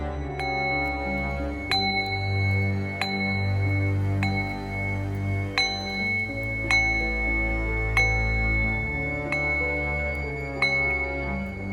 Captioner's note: sounds of a deep resonant tone from a metal bowl